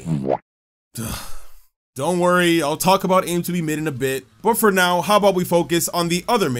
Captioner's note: sigh